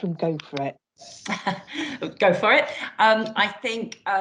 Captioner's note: chuckles